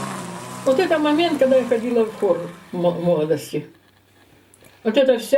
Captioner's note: speaking Russian